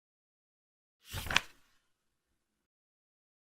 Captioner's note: page flip sound